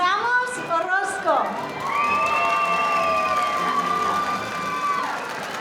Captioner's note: audience cheering